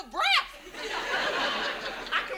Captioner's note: audience laughs